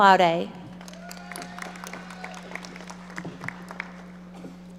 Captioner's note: audience applauding